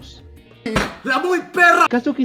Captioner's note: slams table